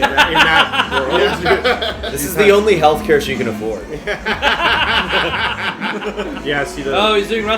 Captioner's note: laughter